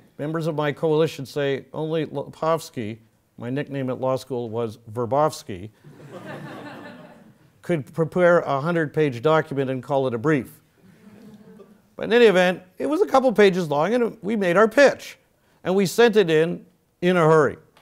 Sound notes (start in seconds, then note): 5.7 laugh